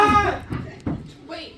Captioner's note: screams